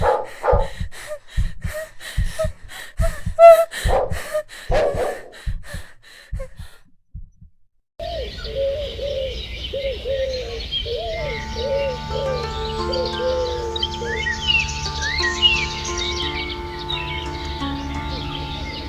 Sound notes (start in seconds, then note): 8.7 morning birds. an owl hoots. suspenseful music